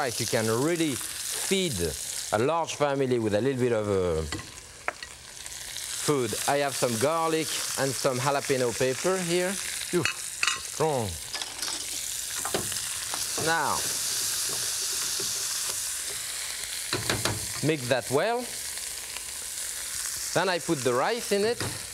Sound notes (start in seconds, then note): 11.1 vegetables sizzling; 17.1 cooking spoon thudding